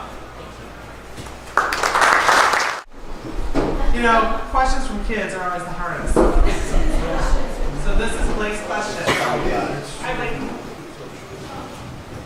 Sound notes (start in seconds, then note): 1.5 applause; 6.4 laughter